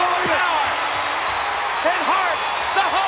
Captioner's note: audience cheers